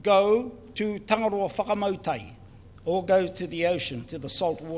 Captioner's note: speaks in foreign language